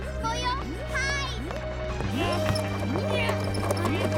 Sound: grunting

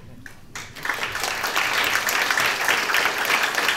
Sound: applause

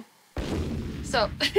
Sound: boom

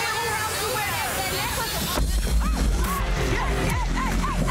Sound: women yelling

